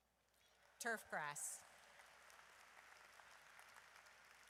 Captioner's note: audience applauds